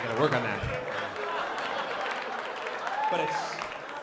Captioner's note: laughter